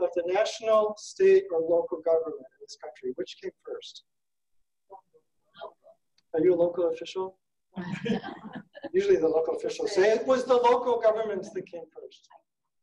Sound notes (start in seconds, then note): 7.8 laughing